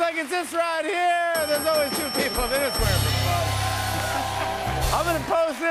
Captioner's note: bell dings